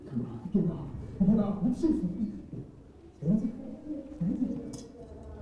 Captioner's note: speaks in foreign language